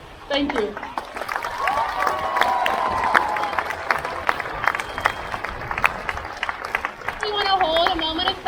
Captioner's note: crowd cheers